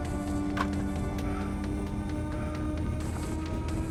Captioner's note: gun firing; gun clattering to ground; rapid suspenseful music